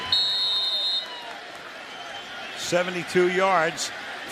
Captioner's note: whistles